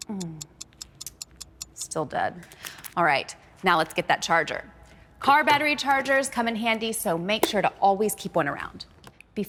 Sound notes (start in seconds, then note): 0.0 tsk